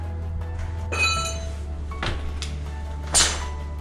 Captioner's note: metal clanks